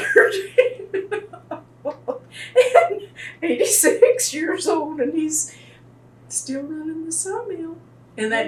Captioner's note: laughter